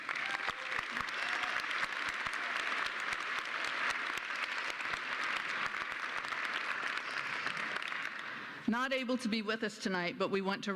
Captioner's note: applause